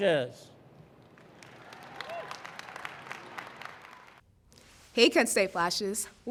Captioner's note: audience applauding; audience cheering